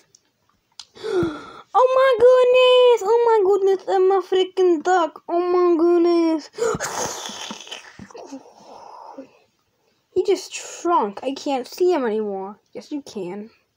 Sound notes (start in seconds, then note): 0.9 breathes; 6.3 shrinking sound effects